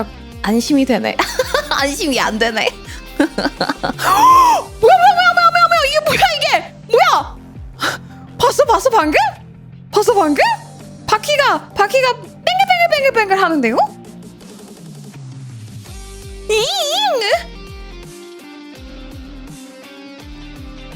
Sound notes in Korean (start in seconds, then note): 2.6 웃음; 4.0 비명